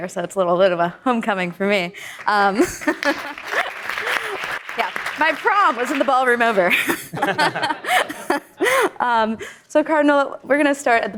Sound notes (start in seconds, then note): 2.2 audience applauding